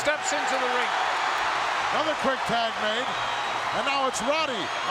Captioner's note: audience cheering